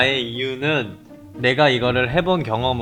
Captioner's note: inhale